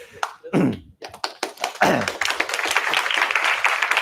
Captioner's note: applause